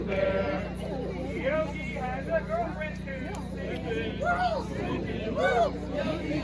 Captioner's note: whoo